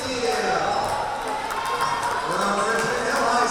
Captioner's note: crowd cheering